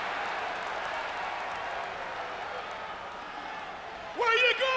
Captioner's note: audience applauds and cheers